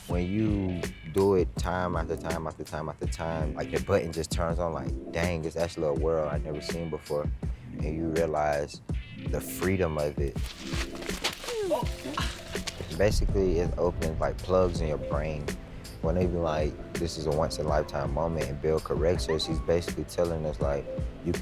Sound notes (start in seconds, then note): 11.1 grunts; 11.3 laughing